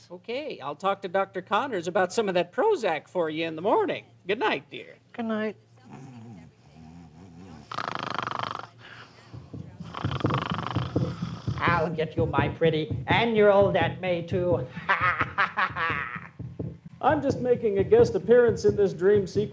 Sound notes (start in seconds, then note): 7.4 snoring